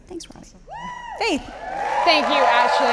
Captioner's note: audience applauding